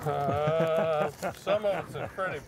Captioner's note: laughing